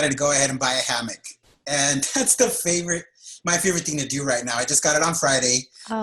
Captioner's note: laughs